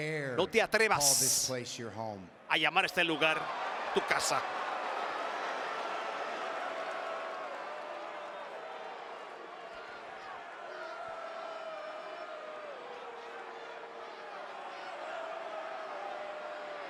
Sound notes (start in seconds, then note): 4.5 applause